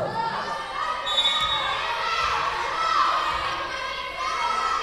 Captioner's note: whistle blowing